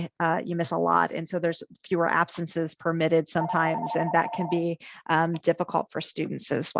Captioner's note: phone ringing